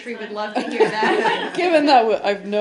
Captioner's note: laughter